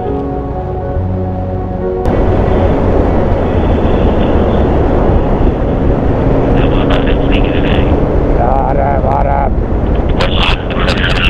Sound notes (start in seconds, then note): 5.8 distorted robot voice